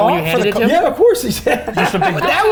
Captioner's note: laughing